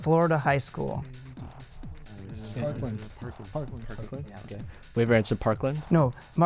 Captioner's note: wispering